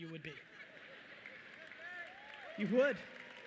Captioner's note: audience cheering